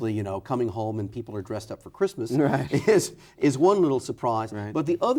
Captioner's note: chuckles